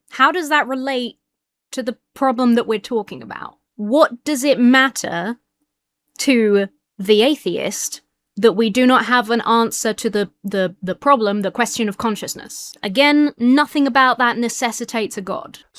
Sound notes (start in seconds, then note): none